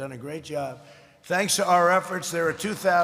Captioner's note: applause